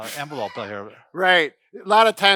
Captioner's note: laughing